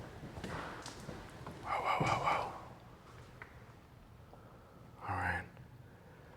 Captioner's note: whispers